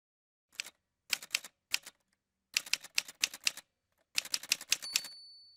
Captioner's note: typewriter sounds